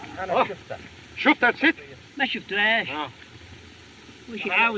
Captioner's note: speaking Foreign Language